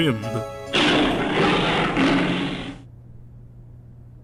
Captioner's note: Léon roars!